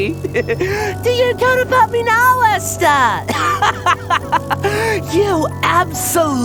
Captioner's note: mockingly; laughter